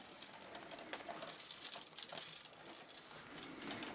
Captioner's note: quiet clattering